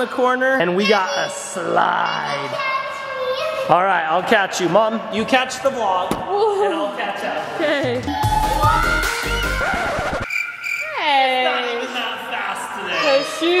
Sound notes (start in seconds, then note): 8.2 screams